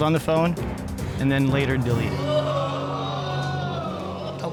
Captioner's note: audience exclaims